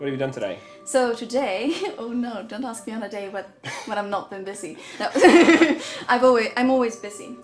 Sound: laughs

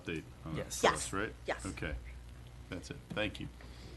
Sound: none

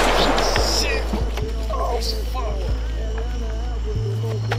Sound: gunfire

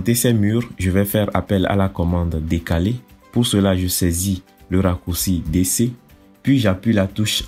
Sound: DC in French

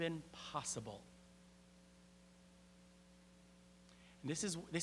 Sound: <i>Brief pause</i>

